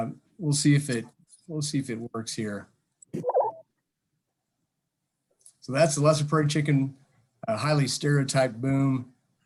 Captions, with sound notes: We'll see if it works here. (chicken softly warbling) That's the lesser prairie-chicken, a highly stereotyped boom.